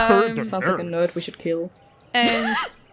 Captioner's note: laughter